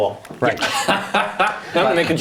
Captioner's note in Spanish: risas